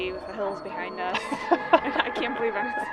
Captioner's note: laughing